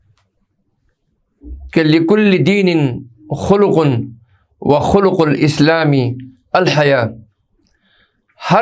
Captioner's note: hadeeth in Arabic